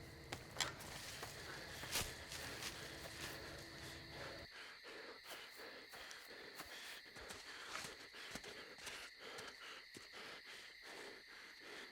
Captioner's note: panting